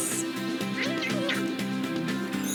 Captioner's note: nom nom